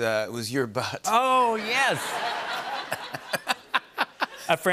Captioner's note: laughter